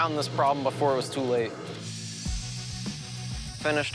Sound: whirring

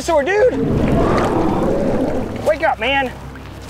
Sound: dinosaur growls

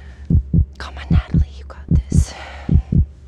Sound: whispering; heart beat gets louder and faster

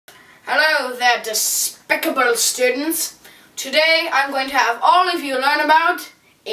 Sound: British accent

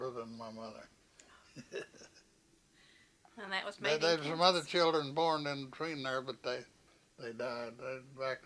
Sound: laughs

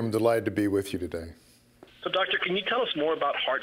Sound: voiceover

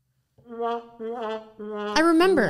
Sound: mocking sound

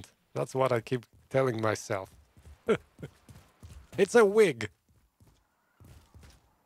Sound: laughs

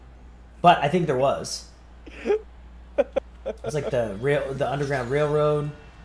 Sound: laugh

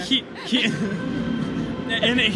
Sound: laughing

